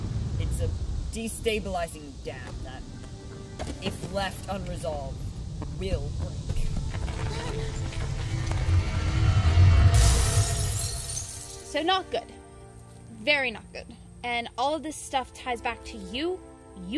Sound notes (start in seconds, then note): 0.0 thunder rumbling; 10.0 floodgates burst open